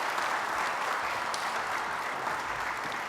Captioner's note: applause